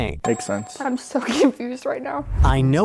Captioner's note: laughing